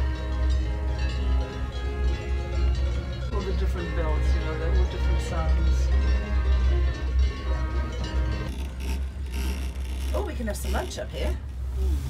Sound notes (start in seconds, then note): 0.0 cow bells chiming